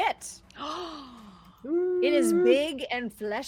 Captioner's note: person gasping